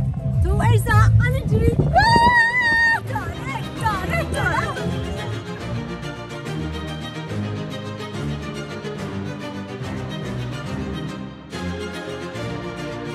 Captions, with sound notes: Move away! I'm coming! [screams with joy] Is it flying? [classic music]